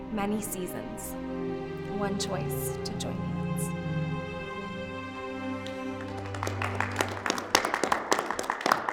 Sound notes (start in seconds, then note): 5.6 applauding